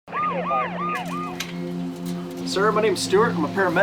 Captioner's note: music, siren, radio chatter